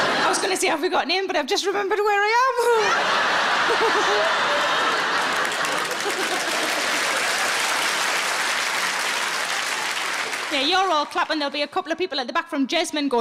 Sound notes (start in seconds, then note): 0.0 audience laughing; 2.7 all laughs; 3.7 audience clapping